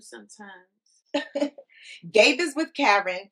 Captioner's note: laughing